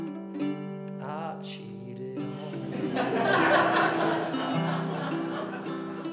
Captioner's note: laughter